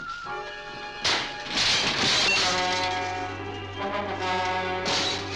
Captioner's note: glass shattering